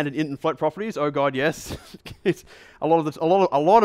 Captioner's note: chuckles